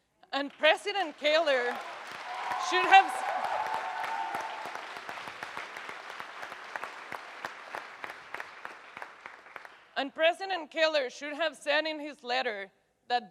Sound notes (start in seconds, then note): 1.5 audience cheers and applauds loudly